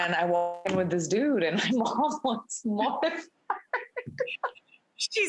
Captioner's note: laughs